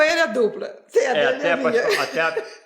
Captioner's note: stutter